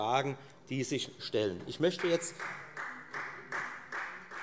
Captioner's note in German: Beifall Freie Demokraten